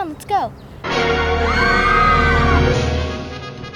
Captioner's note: screech Sound